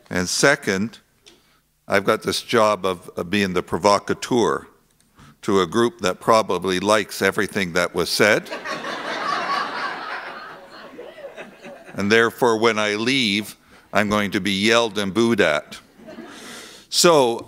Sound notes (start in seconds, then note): 8.4 laughter